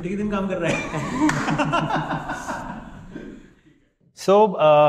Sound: laughing

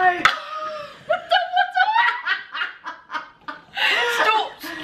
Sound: both laugh

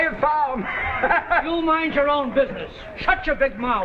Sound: chuckles

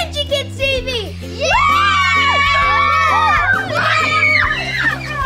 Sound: cheering

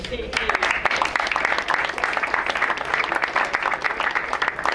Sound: crowd applauds

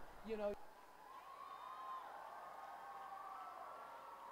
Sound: cheering

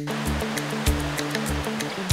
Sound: river water flowing; upbeat music

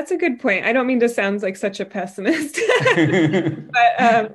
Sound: both laugh

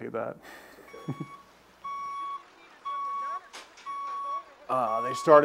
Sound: beeping

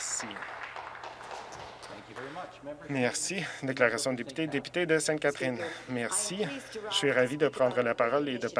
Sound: some Applause

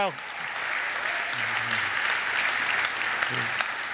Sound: audience applaud

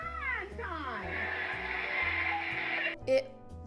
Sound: audience applause

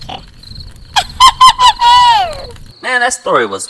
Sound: laughs

